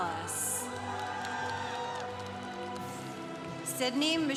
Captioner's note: congregation applauding